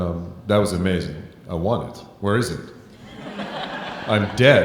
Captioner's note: audience laughing